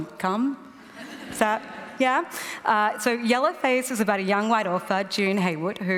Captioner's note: laughter